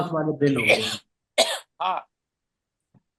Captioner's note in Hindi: नाक से की जाने वाली आवाज़; खांसने की आवाज़; गला साफ़ करने की आवाज़